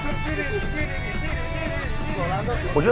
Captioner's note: mouth-guitar